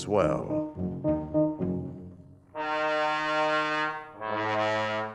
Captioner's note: horn honking